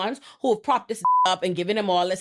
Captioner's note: beep